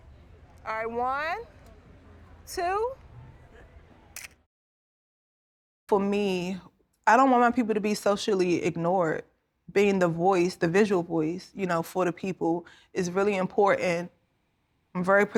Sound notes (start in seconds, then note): 4.2 shutter clicks